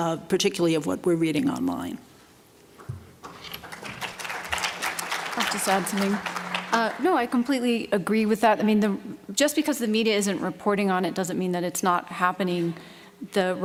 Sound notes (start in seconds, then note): 3.2 applause